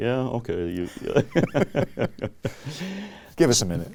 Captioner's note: laughing